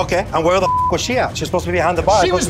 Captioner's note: beeps